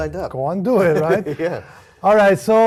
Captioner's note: laugh